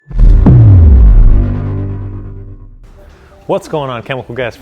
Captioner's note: logo thumping